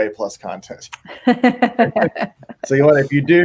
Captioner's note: laughing